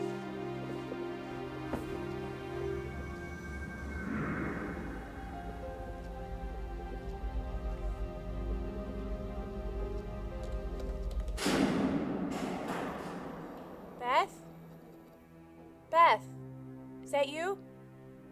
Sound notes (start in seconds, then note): 0.2 somber music continues; 3.5 mysterious music; 5.9 somber music; 11.6 switch clicks